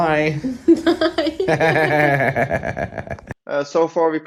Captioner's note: laughing